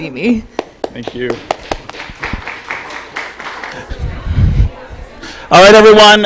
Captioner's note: applause